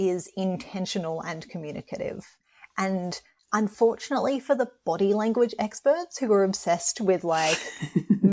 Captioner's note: laughter